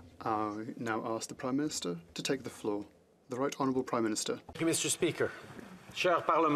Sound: speaking French

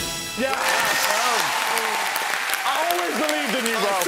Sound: whooshing; cheering

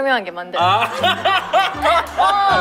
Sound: laughing

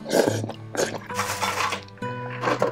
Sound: slurps

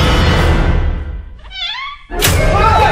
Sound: hinge squeak

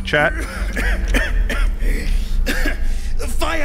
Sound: coughs

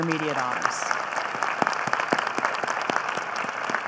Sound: applause

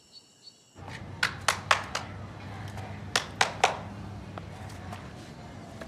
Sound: man clapping

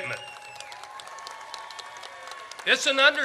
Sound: audience cheers

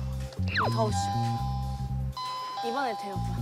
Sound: ding-dong!

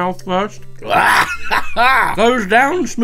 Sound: groaning

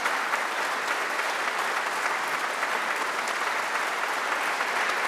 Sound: audience applause continues

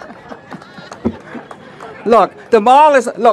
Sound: laughter

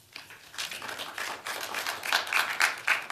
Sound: applause

